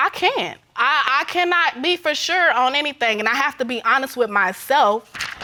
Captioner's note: stammers